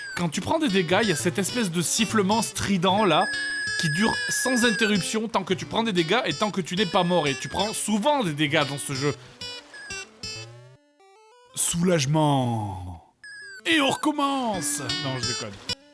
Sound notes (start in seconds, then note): 10.4 silence